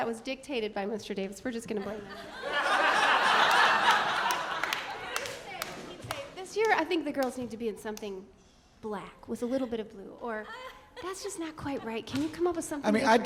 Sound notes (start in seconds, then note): 4.4 audience laughing